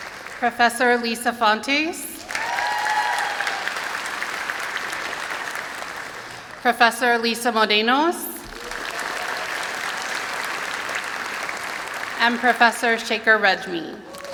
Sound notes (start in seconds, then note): 2.1 applause and cheering; 8.3 applause